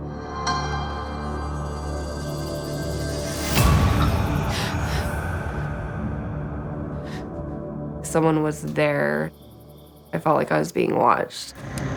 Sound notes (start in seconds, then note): 4.4 Whitney gasps